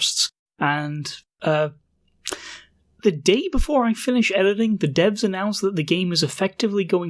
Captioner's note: lip smack